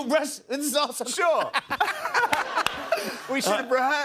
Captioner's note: laughter